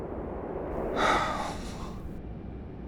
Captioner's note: Heavy Guy sighs